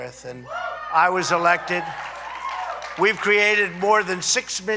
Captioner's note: applause